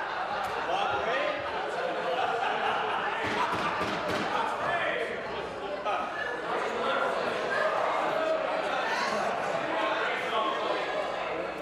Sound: chanting

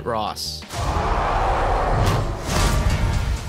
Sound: Red Hulk roar

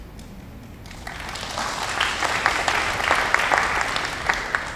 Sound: applauding

